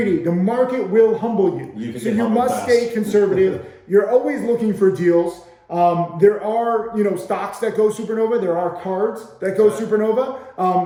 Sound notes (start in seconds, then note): 1.9 laughing